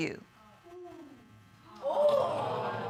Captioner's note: audience exclaims